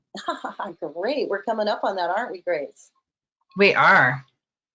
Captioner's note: laughs